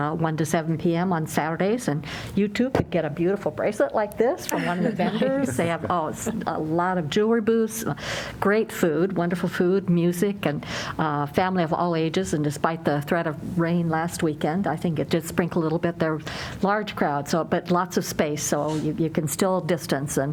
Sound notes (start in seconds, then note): 4.5 laughter